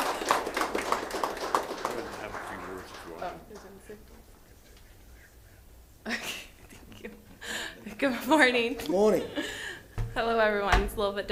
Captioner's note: applause